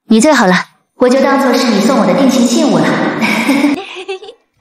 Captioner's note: chuckles